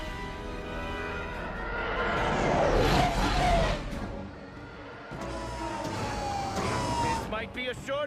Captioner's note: mixed TIE Fighter and X-Wing sounds